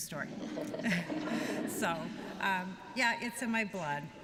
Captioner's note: laughter